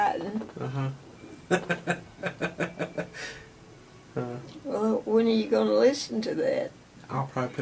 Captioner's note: laughs